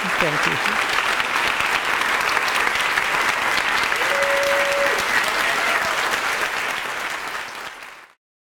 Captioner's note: applause